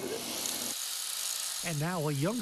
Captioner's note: tool whirring